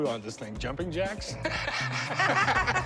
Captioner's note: laughter